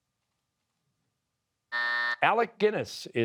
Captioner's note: buzzer